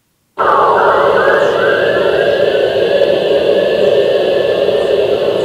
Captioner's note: whooshing and whistling